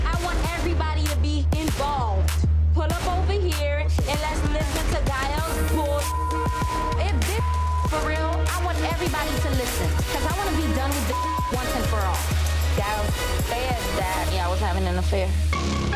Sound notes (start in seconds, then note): 5.3 beep; 11.6 beep; 15.2 ominous electronic music